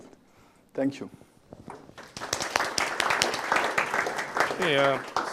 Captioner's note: applause